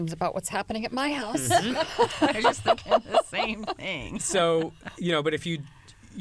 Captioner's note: laughter